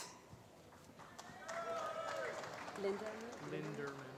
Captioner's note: applause